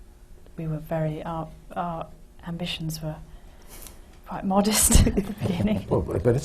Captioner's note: laughs